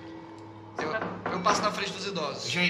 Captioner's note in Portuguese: batida na porta